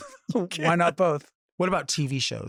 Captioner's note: laughs